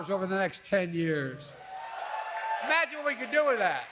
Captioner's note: applause